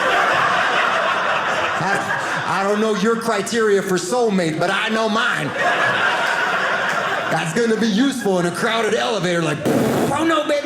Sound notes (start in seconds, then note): 0.0 audience laughing; 5.4 audience laughing; 9.6 fart noise